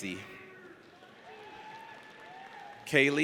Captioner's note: audience cheers